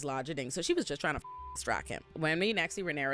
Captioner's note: beep